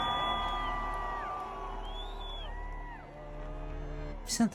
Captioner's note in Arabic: صراخ; تشجيع